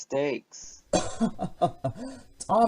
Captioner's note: chuckling